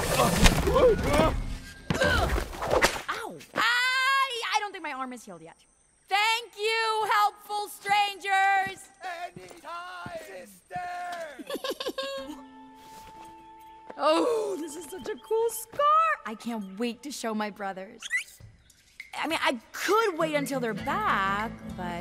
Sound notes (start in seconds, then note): 0.1 all three exclaiming in dismay; 1.9 Maya grunting; 2.4 rope cracking like a whip; 4.0 yelling in pain; 11.4 Maya giggling